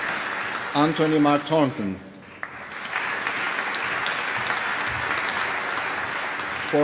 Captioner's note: applause